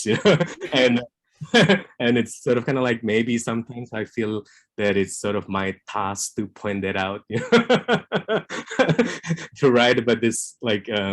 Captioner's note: laughs